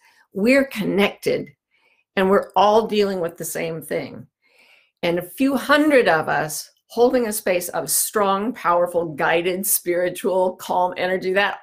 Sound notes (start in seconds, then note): none